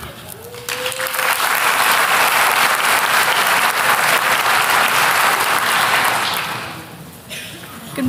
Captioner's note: applause